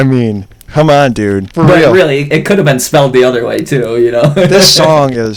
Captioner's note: laughs